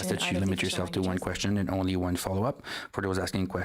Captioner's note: speaking French